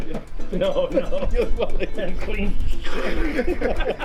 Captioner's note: everyone laughing